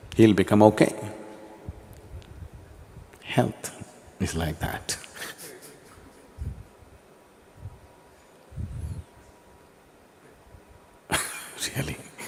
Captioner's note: laughs